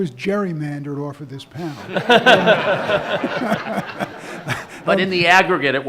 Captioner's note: audience laughs